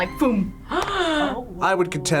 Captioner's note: gasps